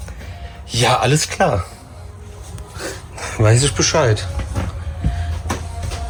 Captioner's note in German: schnauben